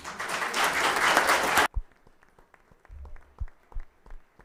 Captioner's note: audience clapping